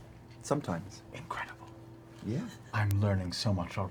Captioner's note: quietly